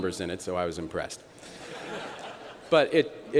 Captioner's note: laughter